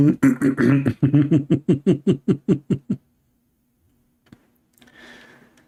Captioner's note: Ketawa